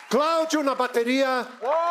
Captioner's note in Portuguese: aplausos